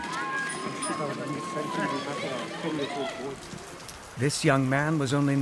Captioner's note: people speak foreign language